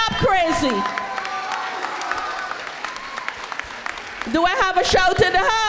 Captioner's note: crowd applauds